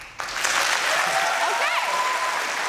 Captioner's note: applause